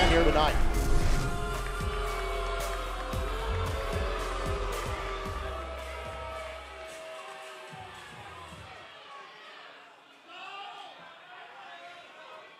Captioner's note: crowd cheering